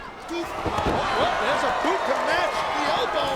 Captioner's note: mat thumping